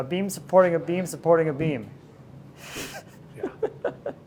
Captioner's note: laughs